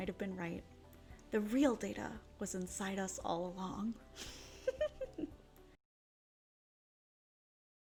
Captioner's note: giggle